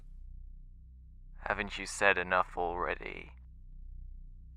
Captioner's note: voice on phone